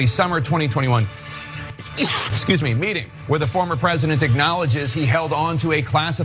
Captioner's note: cough